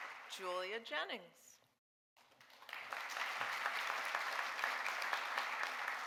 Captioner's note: audience applauding